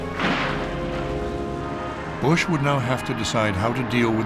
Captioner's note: explosion